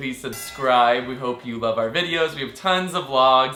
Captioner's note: bell noise